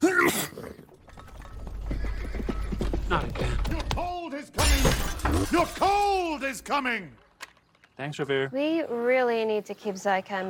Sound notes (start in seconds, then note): 0.0 sneeze; 2.7 hooves approaching